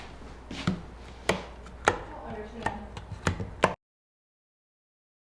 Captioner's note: lights switches clicking